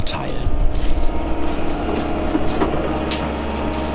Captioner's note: machine noise